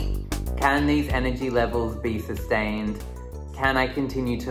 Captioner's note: voiceover